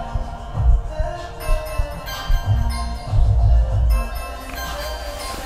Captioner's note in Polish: dzwonek budzika odbija się od ścian